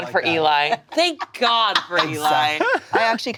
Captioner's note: laughing